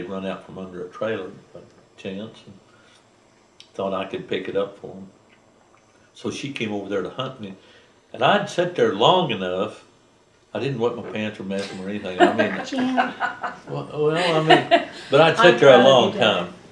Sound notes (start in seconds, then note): 11.6 laughter